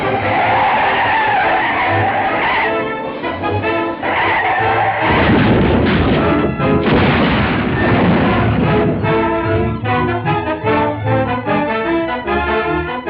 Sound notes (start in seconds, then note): 0.0 tires squealing; 4.8 crashing noise